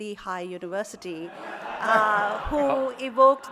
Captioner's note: audience laughing